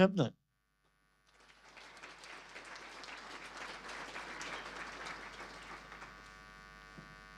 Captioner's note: applause